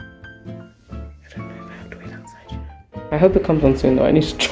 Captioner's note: whispers